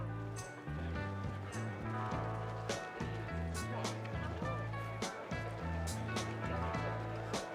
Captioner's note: people talking in background